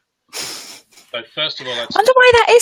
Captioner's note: laughing